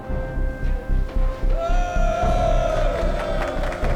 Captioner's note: cheering